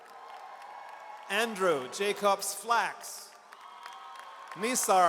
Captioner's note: audience cheers